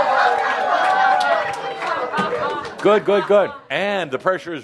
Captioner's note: audience approval